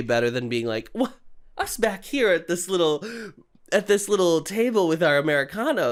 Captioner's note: sarcastically